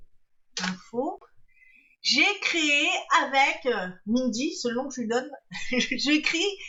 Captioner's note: laughs